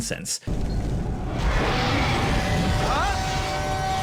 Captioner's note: creature roars; dramatic music